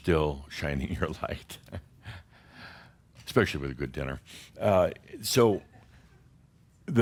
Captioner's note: Adamus chuckles